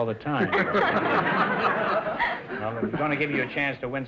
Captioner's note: audience laughter; laughing